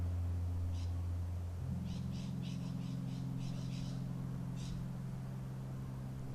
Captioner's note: bird calls